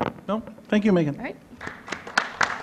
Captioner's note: applause